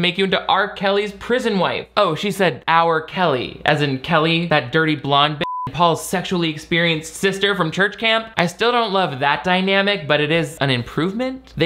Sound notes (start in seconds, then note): 5.4 beep